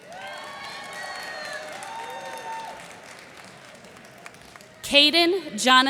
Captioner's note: cheers and applause